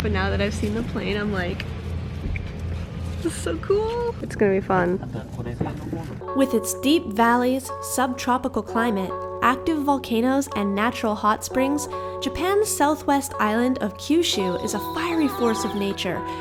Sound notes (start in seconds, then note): 5.2 speaking foreign language